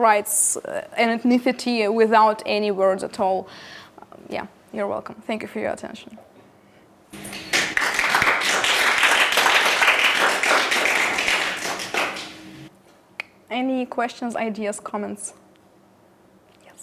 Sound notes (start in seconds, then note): 7.1 applause